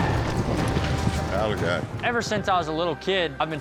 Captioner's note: shouting, hoofbeats